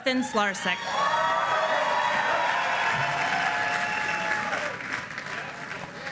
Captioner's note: applause